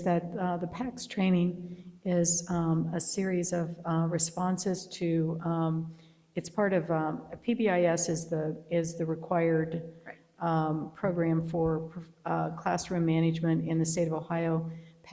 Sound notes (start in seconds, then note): none